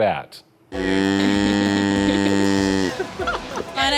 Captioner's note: cow moos